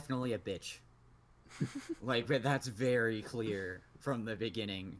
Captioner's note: giggles